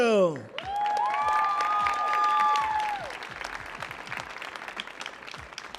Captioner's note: audience applauding